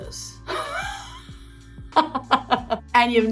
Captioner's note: Kate laughing